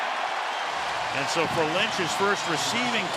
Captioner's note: cheering